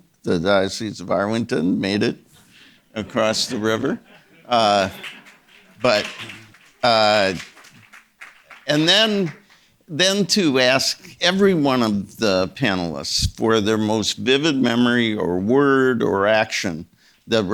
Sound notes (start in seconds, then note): 2.8 audience members laughing; 5.2 audience members clapping